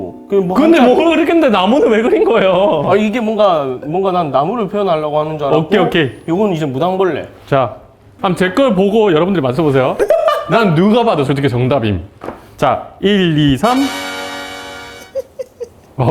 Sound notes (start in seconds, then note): 10.4 confident